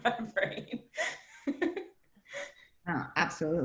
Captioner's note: laughs